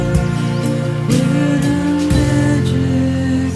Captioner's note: birds singing